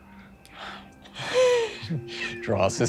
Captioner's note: laughing